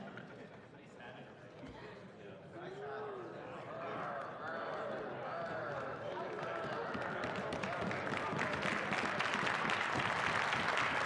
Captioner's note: applause